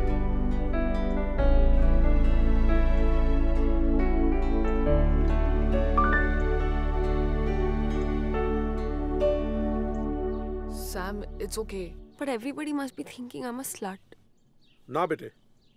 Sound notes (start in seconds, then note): none